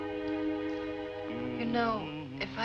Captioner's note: humming